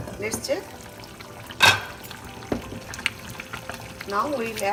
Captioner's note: pan bubbling